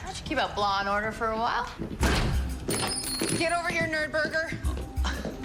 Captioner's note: lock clatters to the floor